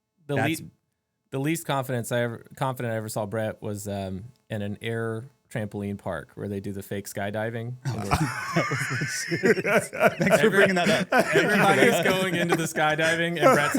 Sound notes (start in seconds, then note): 7.8 both Laughing